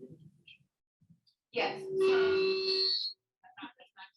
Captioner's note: radio interference